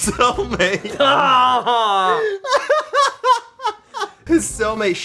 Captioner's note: laughs hard